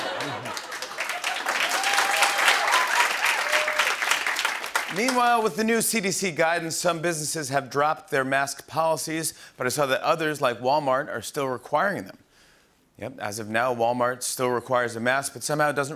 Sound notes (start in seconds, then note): 0.0 laughter and applause; 2.8 cheering